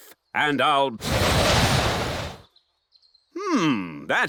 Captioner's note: blows